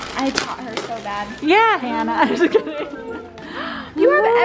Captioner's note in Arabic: ضحكة مكتومة